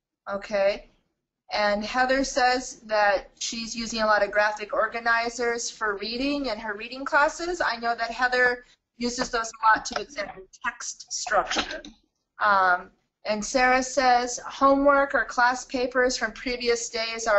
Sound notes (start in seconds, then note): 11.2 distorted audio